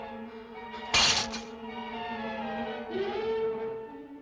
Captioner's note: mirror clatters